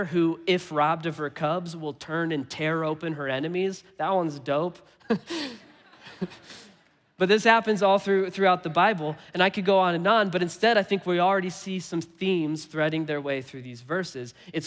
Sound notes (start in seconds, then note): 5.1 congregation laughing; 5.1 laughing